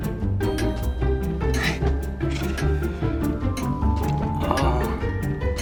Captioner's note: laughs and sighs